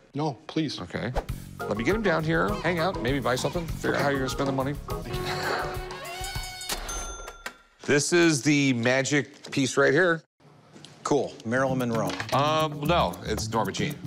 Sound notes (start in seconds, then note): 5.1 laughs; 6.4 cash register chiming